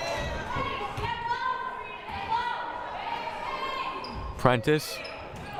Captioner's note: players shouting